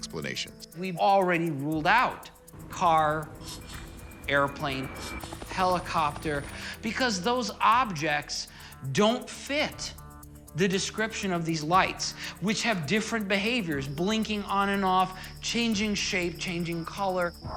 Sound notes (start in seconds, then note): 2.5 airplane engine roars; 2.6 car engine runs; 5.4 helicopter blades whirring